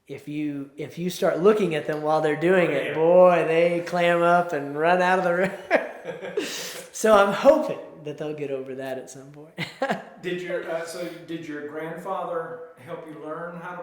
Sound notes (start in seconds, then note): 5.3 both laugh